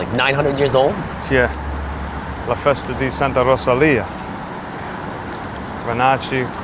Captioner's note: speaks foreign language